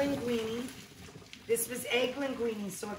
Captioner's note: water and pasta slosh